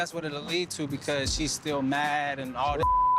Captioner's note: beep